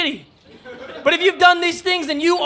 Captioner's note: audience laughs